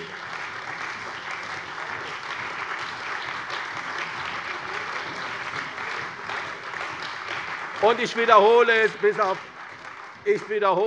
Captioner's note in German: Beifall bei der CDU und dem BÜNDNIS 90/DIE GRÜNEN